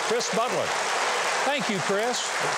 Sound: audience applauds

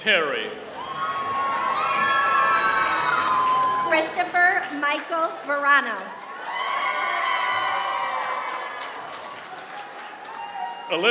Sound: applause

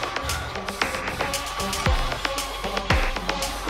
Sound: mysterious robotic noise through the dark approaches

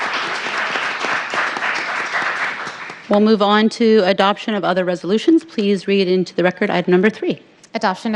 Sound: cheers and applause

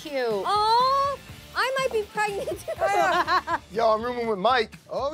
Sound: laughs

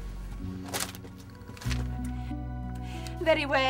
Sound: paper shuffling

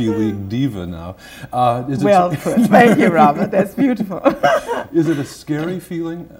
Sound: laughter

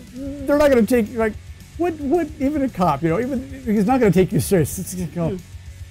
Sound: stutters

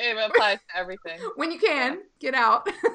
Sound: laughing

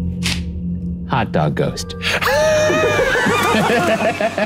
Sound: laughs

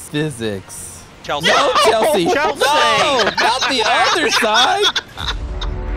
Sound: laughter

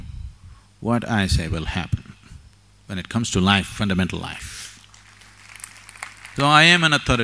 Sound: applause

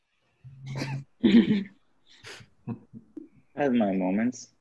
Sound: group laughs

